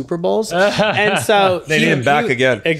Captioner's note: laughing